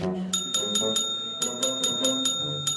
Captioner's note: bell ringing rapidly